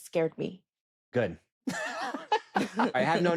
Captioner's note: both laughing